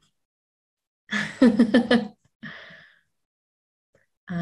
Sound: laughing

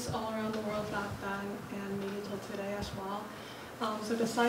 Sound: viewer mumbling

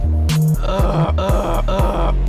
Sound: clears throught; clears throught, Clears throught; clears throught, Clears throught, Clears throught

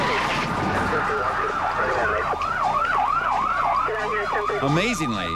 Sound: tires screech

